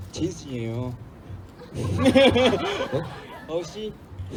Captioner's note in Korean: 웃음